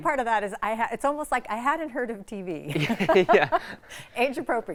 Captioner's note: laughs